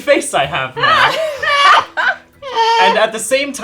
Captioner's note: laughing